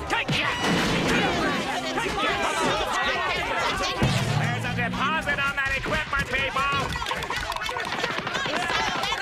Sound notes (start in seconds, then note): 0.2 yelling; 1.6 squabbling